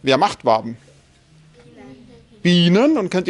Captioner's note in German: Kindergemurmel